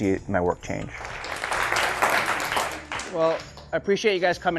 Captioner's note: applause